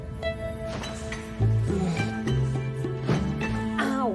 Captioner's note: groans